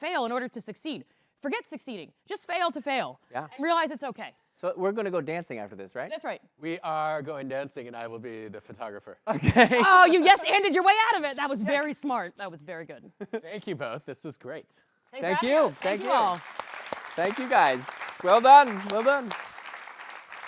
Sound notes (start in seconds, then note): 9.3 chuckling; 15.2 applause